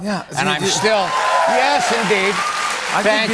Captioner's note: cheers and applause